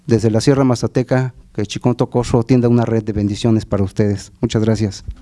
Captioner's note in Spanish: habla en mazateco